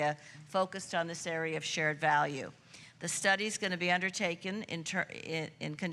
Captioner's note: none